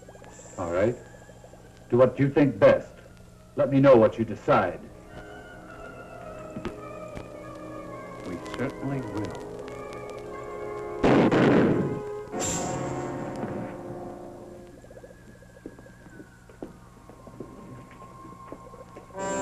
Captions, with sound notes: - All right, do what you think best. Let me know what you decide. - We certainly will. (gun fires)